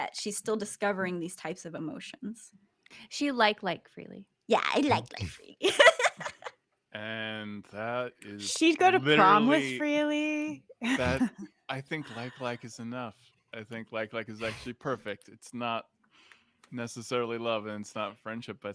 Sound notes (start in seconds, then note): 5.6 laughs